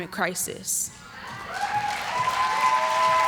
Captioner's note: applause